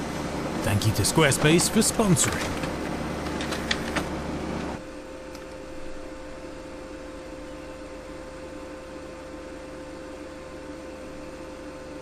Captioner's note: excessive printer noise